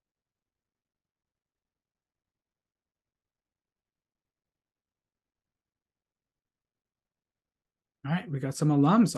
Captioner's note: silence